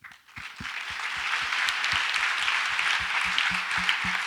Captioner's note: audience applauds